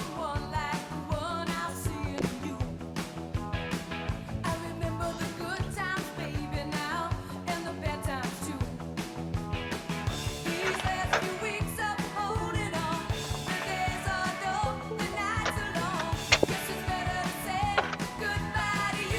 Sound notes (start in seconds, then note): 11.7 door opens; 17.4 door closes